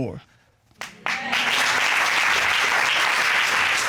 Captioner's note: audience applauding